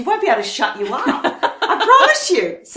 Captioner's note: laughs